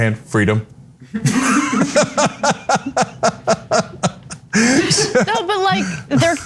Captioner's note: laugh